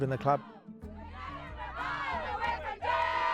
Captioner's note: team chant